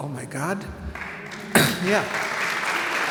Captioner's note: audience applauds